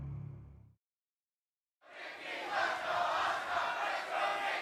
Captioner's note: fans chanting